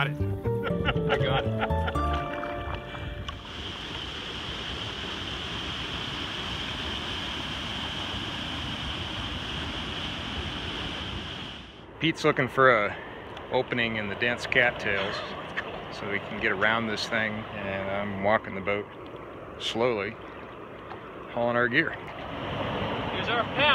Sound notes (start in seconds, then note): 0.6 laughing; 2.7 water rushing